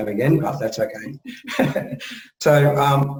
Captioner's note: both speakers laugh